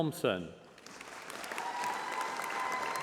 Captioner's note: applause